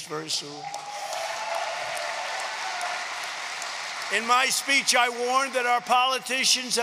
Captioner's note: applause